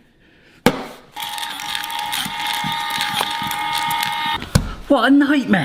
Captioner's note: machine whirring